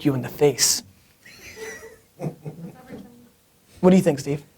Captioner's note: laughter